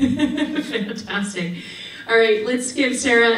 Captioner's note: laughing